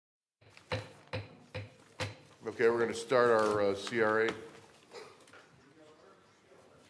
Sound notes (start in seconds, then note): 0.5 gavel Sound